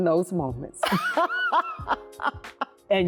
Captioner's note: laughing